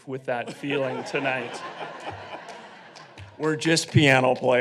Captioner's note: audience laughing